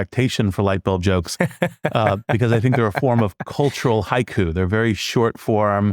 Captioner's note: laugh